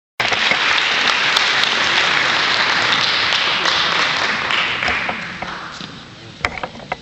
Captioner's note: applause